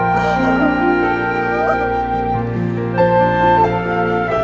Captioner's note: llanto